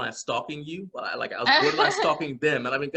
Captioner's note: laughing